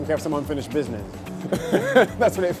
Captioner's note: laughs